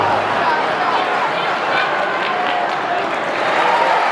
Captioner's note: crowd cheering